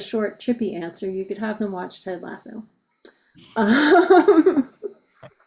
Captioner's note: laughs